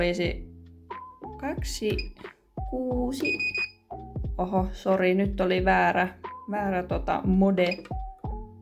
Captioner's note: machine beeps